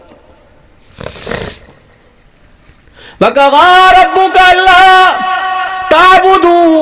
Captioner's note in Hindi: नाक से की जाने वाली आवाज़